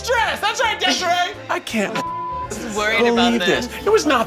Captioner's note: beep